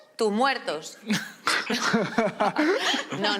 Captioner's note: laughter